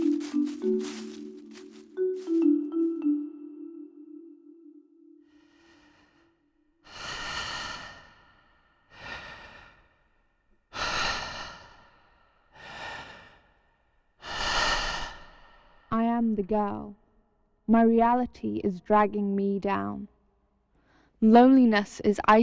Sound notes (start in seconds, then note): 6.8 deep breathing